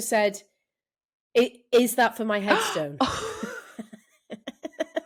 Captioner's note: laughter